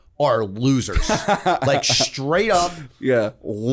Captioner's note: chuckle